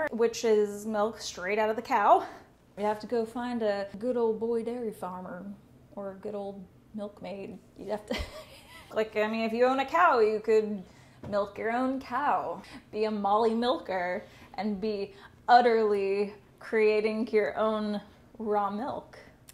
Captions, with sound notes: which is milk straight outta the cow. You have to go find a good ol' boy dairy farmer, or a good ol' milk maid. (laughs) Like I mean if you own a cow, you could milk your own cow. Be a molly milker, and be udder-ly creating your own raw milk.